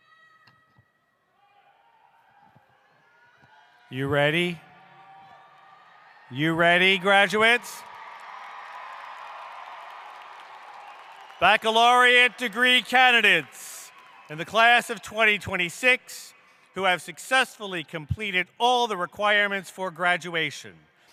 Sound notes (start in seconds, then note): 8.5 cheering